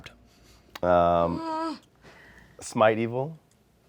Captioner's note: Omelette whimpers